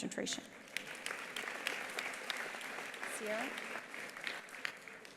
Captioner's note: attendees applauding